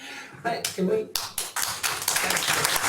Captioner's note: applause